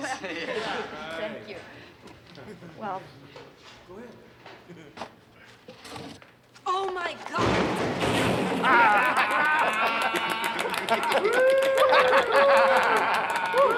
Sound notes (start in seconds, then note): 8.6 laughing; 8.8 clapping